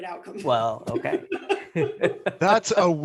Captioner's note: laughter